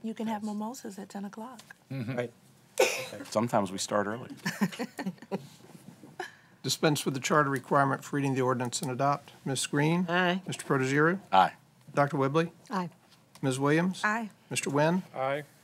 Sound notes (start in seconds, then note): 4.4 laughter